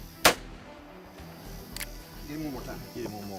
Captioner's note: gun fires